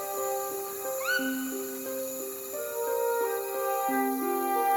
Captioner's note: toucan calls